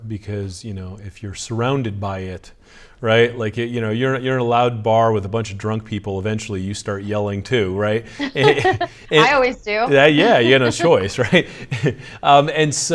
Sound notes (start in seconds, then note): 8.1 laughter